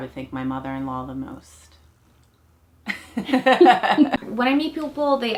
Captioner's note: laughs